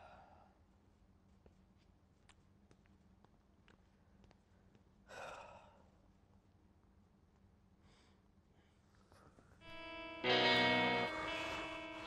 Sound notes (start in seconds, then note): 3.2 deep exhale